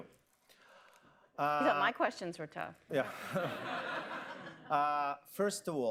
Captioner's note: laughter